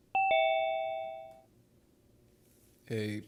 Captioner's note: computer dings